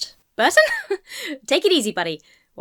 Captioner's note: laughs